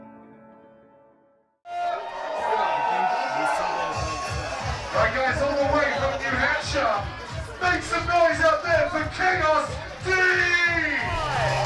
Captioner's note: crowd excitement